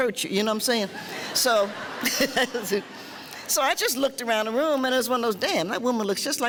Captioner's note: laughing